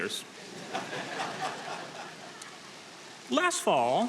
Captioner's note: audience laughing